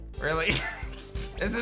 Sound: chuckles

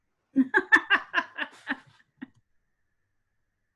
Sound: laughs

